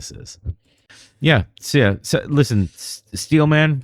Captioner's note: uh